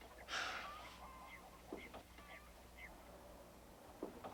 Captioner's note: Ben sighing